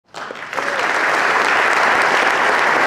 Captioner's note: applause